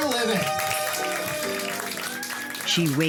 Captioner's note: applause